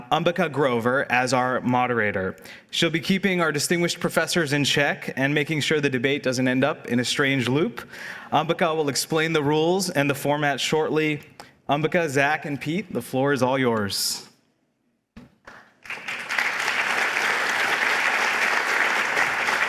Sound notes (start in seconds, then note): 15.4 applause